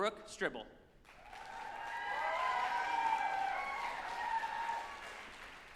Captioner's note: group applauding and cheering